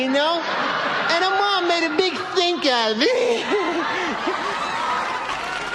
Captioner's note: Risos